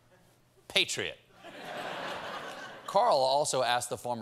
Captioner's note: laughter